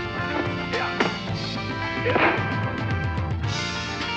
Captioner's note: both grunting